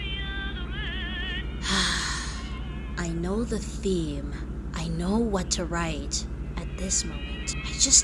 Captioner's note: sighs